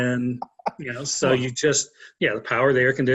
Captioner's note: laughs